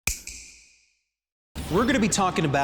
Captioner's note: snap